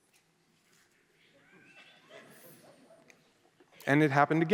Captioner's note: silence